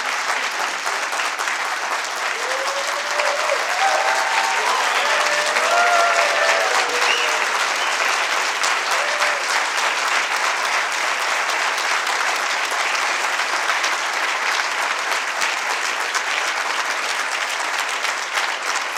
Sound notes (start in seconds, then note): 2.0 applause And Cheering